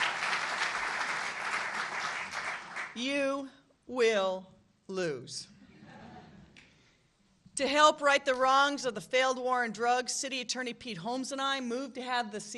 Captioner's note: applause